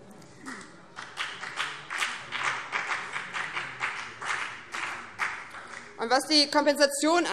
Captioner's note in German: Beifall BÜNDNIS 90/DIE GRÜNEN